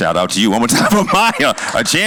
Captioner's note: laughter; exhales